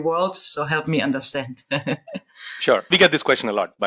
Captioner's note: chuckles